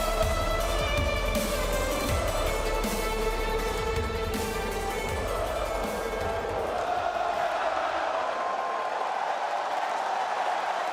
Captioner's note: cheers and applause